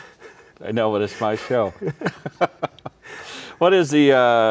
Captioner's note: laughs